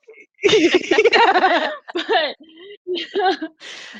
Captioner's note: all laughing